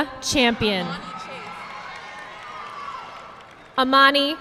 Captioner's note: audience clapping